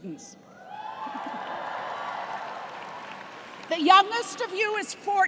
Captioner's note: cheers and applause